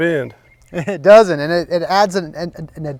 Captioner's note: chuckling